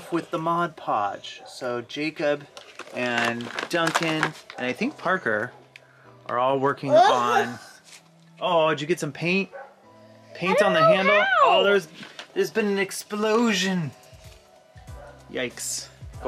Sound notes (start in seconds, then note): 7.5 groans